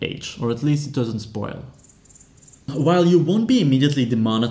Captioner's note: awkward cricket sound